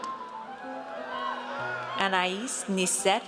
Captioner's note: audience cheers